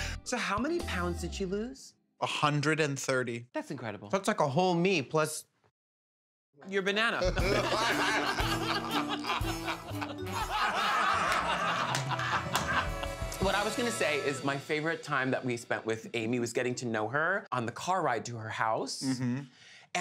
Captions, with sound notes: So how many pounds did she lose? 130. That's incredible. That's like a whole me plus-- Your banana. [LAUGHTER] What I was going to say is, my favorite time that we spent with Amy was getting to know her on the car ride to her house.